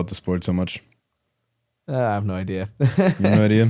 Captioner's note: laughs